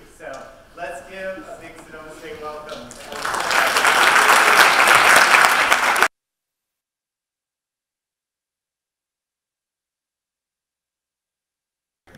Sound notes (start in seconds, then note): 2.7 applause